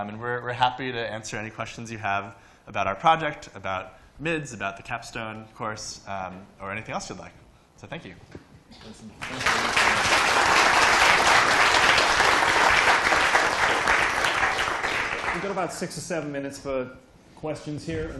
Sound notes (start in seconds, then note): 9.2 applause